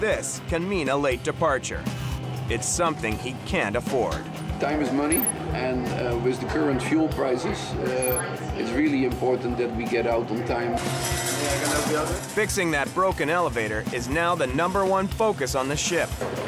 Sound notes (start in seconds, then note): 10.8 metal screeching